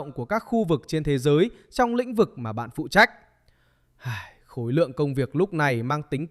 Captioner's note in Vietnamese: thở dài